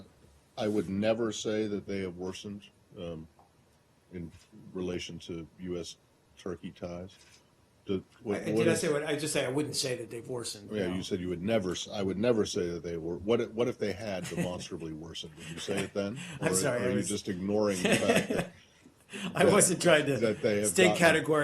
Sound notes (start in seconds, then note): 14.2 laughter